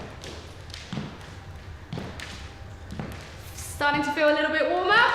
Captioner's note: footsteps echo